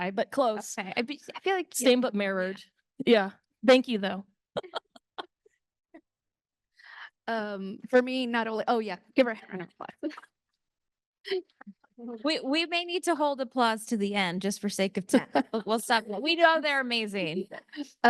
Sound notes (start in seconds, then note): 4.5 chuckles